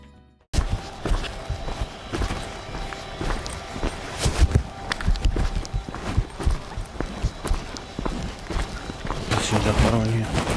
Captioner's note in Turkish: ayak ve çalı sesleri